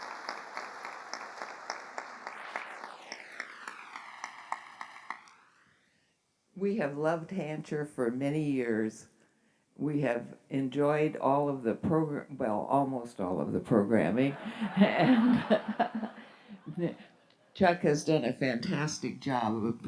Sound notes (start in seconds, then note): 14.3 laughter